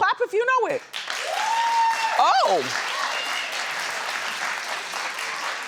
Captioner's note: audience cheers